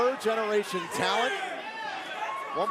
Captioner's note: crowd cheering